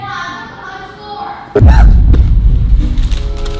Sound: gasps

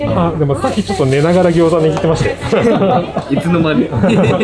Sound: laughs

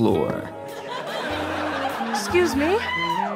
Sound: audience laughter

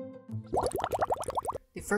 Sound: bubbles

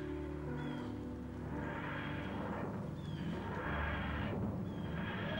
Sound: TARDIS materializing

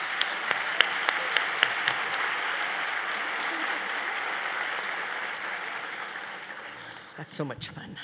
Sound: applause

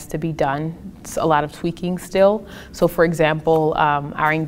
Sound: none

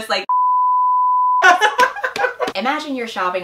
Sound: laughs

